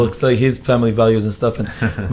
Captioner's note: laughs